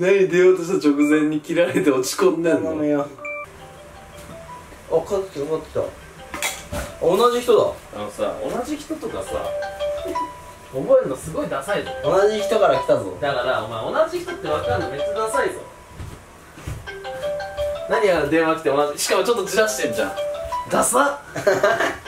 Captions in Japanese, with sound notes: 何、出ようとした直前に切られて落ち込んでんの笑 頼むよぉ.... ピロリロリロ〜♩（着信音） あ、かかってきたかかってきた あ、同じ人だ！ あのさ、同じ人とかさ 覚えんのすごいださいぞ 同じ人から来たぞ！ だから、お前同じ人って分かんのめっちゃださいぞ 笑 〜♩（着信音） 何あの電話来て同じ人って...、しかもちょっとじらしてんじゃん！ ださ！！！